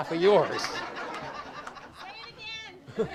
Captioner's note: audience laughs